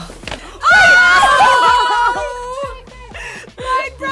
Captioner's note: yelling